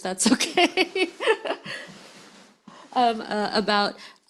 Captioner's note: speaker laughs